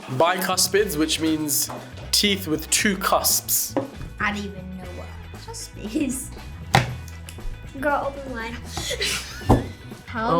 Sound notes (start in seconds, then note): 8.6 laughs; 8.6 both laugh